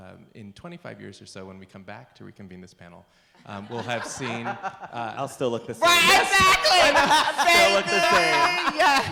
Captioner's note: laughter